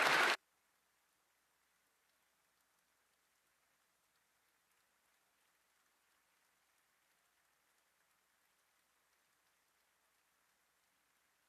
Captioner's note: applause